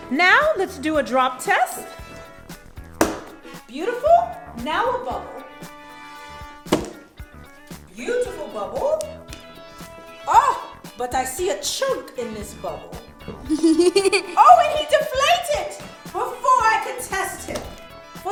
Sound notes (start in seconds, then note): 13.4 laughing